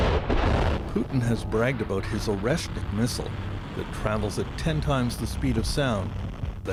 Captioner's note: explosion